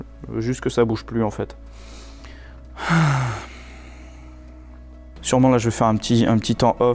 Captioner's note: sighs